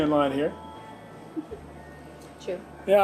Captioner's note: laughs